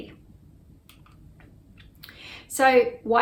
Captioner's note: mouse clicks